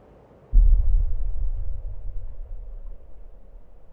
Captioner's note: air whooshing